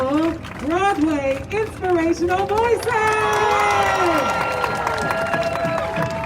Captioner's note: crowd cheering